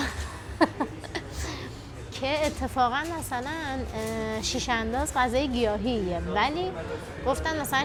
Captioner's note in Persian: خنده